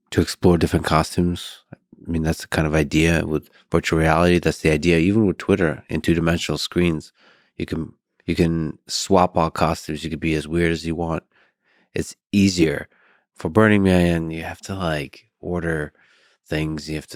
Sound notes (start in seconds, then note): none